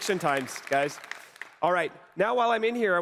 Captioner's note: applause